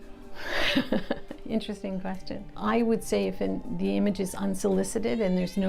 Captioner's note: laughs